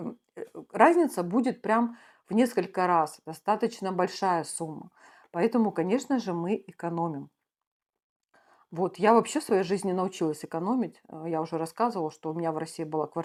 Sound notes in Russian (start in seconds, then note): none